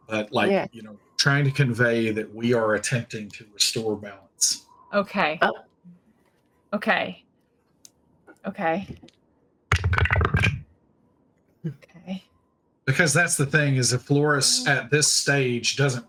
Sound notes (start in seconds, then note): 9.7 dice rolling